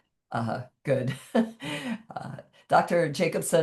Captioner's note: chuckles